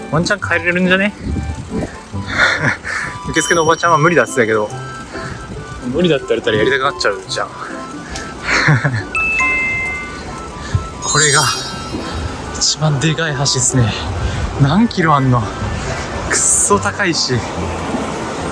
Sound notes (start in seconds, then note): 2.2 laughs